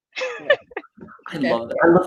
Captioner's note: chuckles